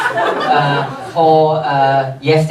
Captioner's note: audience laughs